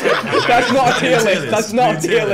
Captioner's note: laughing